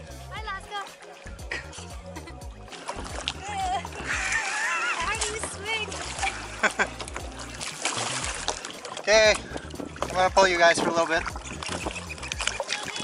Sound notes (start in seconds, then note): 6.2 laughs